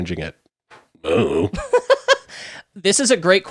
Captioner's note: laughing